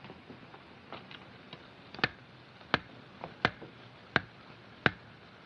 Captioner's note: steady Ticking